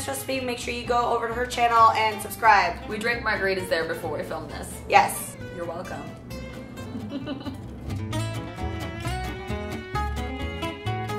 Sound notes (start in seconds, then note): 6.8 laughing; 8.1 upbeat folk music